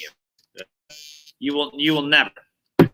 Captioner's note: audio glitches